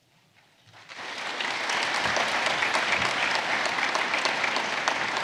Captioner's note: audience clapping